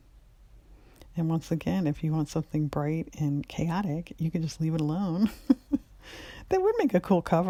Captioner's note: laughs